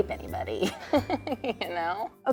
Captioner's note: both laugh